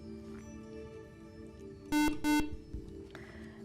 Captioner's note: beeping